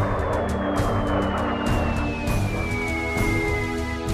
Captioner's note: bombs whistle through air